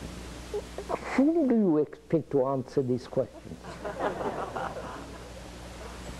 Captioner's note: laughter